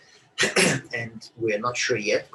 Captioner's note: coughs